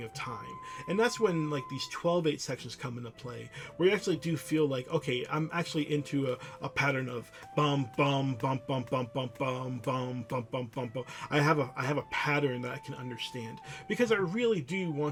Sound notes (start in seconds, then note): 7.1 hums